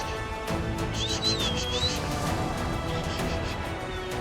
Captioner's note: whistling